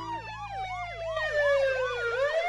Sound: siren blaring

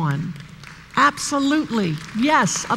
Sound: applause

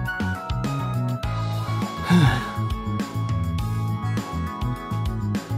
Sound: sigh

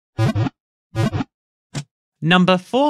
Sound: Pokéball wiggle sound

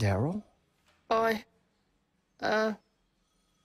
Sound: stammering

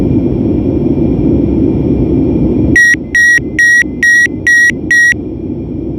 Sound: autopilot off signal

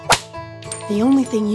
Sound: smack

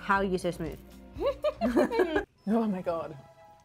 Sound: both laughing

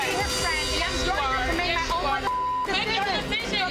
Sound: beep

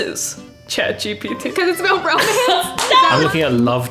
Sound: laughs

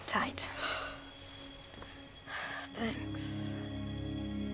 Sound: yawns

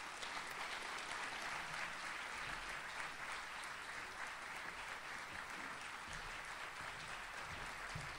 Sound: audience applauds

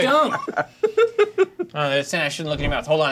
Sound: co-hosts laughing

